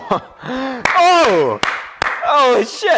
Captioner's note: Tom claps